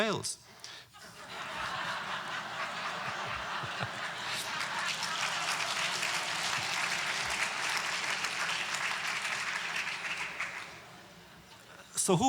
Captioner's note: audience laughter